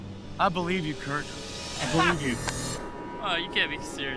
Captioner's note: trader laughs